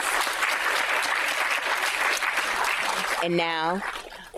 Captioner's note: audience applauding